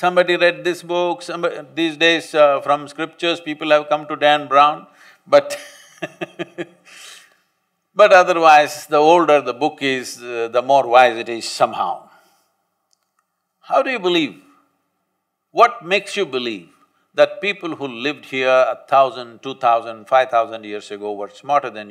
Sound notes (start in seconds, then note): 5.6 laughs